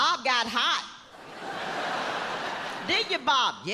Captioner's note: audience laughs